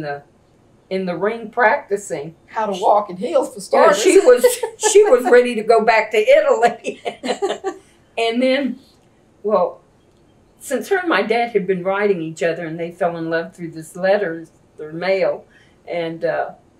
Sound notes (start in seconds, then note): 3.7 laughs; 6.7 laughs